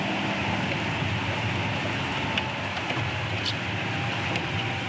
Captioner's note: engine rumbling